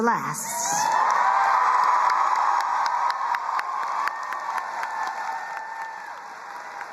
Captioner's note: crowd cheering and applauding